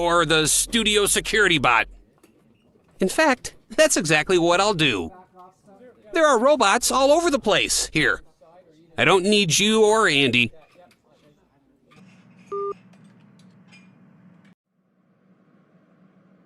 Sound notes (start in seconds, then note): 12.5 hangup beep